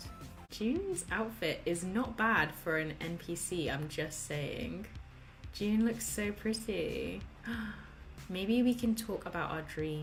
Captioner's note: gasps